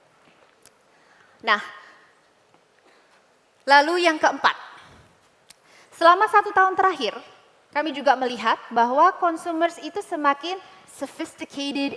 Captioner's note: non-english speech